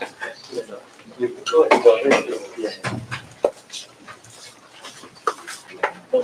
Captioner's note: background chatter